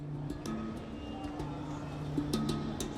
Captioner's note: traffic noises